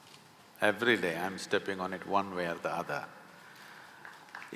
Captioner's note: few applaud